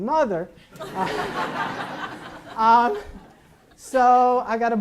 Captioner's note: audience laughs